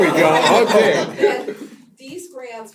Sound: laugh

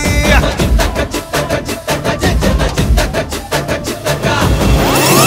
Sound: humming

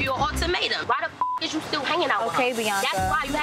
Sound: beep

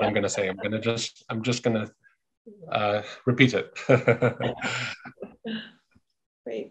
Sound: laughing

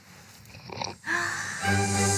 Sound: woman slurping; woman gasping; gentle music

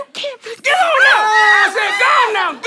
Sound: screams

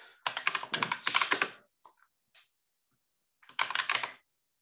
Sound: keyboard clattering

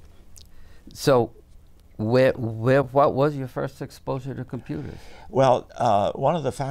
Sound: laughs

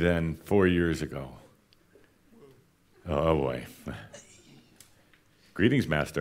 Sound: she sighs

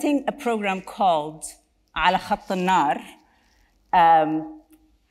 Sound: speaks Arabic

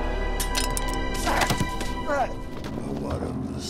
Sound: knife rattles

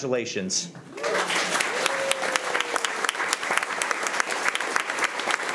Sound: crowd cheering and clapping

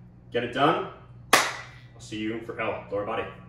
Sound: clap

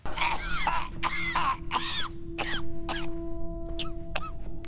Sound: Hitler coughing

